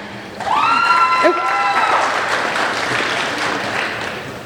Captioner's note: applauding